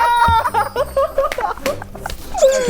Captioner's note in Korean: 끅끅끅